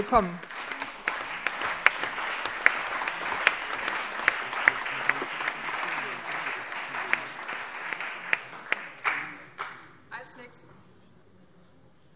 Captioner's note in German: Allgemeiner Beifall